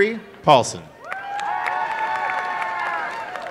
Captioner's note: cheering and applause